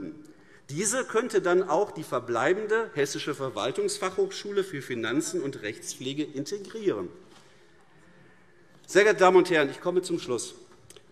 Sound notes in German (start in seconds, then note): none